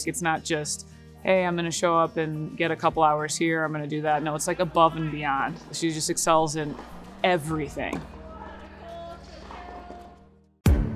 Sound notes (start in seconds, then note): 7.6 tennis balls bouncing; 8.5 players shouting; 10.7 upbeat music